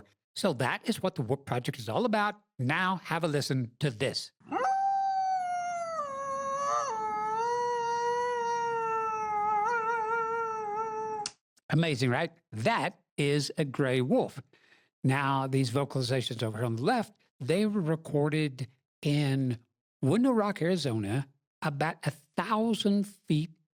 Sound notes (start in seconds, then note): 4.5 wolf howl